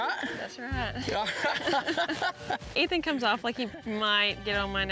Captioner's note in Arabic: ضحك